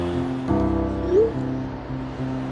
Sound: message sound effect playing

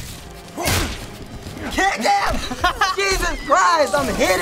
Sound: laughs

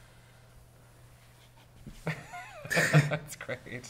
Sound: people laugh

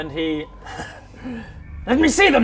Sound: worrying laugh

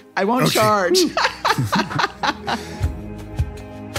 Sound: laugh

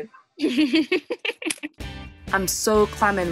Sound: laughter

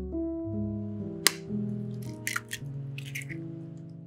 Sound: egg cracks

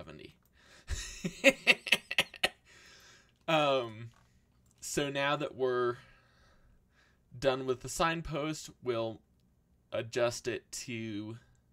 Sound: laughs

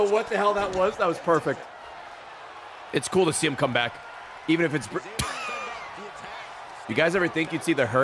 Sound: laughs

